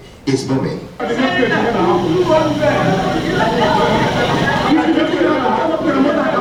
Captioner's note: people shouting in foreign language